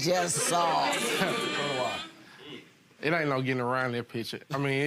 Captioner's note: audience agreeing and laughing